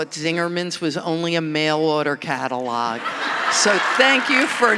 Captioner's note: audience laughing